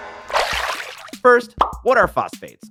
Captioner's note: water splashes